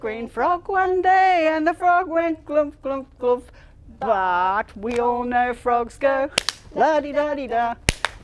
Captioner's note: clap